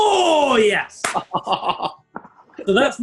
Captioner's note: chortling